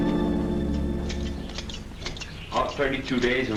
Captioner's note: snipping